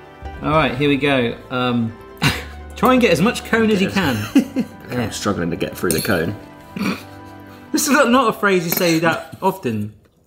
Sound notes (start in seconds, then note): 4.1 laughs; 6.7 snorts